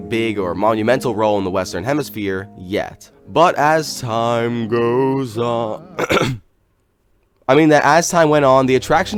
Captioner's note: clears throat